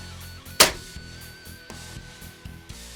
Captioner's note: slap